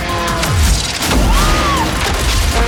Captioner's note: shouts; gear shifts